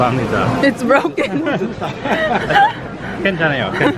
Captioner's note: laughs